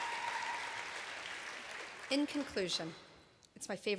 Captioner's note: applause